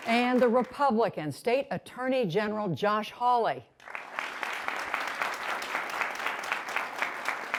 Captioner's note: applause